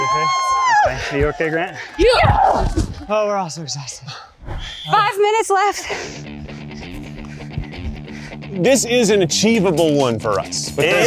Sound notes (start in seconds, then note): 0.0 cheering; 2.0 women cheer; 6.0 dramatic music